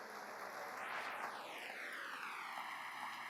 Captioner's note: applause